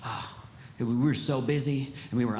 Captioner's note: sighs